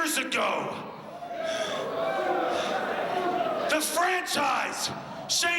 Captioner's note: crowd chatter